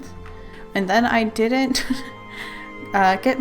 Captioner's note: laughs